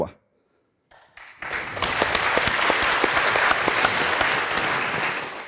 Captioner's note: applause